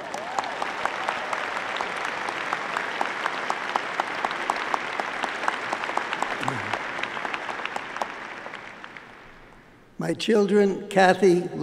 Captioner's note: applause